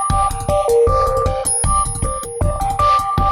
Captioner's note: ping sound